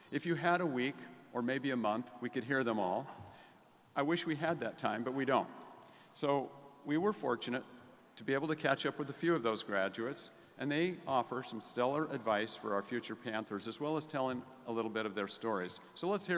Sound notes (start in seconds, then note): none